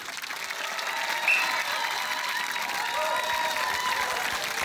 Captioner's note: cheering, applause; blows whistle